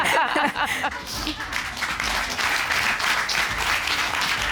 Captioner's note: laughter; applause